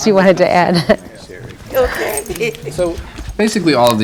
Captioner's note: laughing